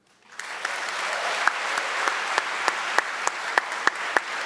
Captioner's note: audience clapping